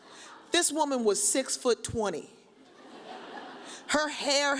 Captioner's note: audience chuckles